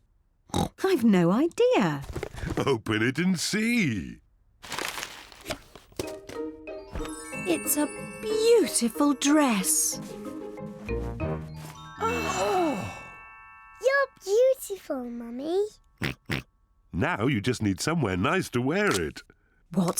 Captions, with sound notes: (OINKS) I've no idea! Open it and see. It's a beautiful dress! (ALL GASP) You're beautiful, Mummy. (OINKS) Now you just need somewhere nice to wear it.